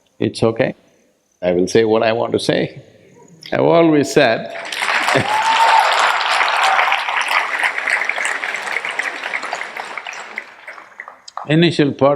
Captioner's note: cheers/Applause